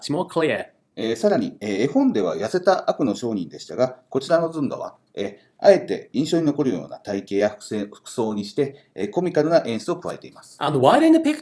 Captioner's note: speaking Japanese